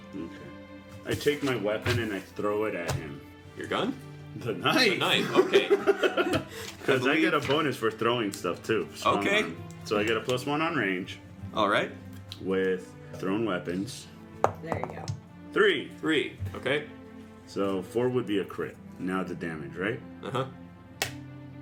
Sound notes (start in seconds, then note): 5.0 laughs